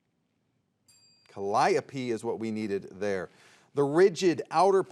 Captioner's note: soft chiming